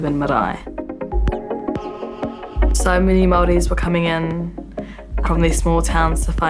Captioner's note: birds chirping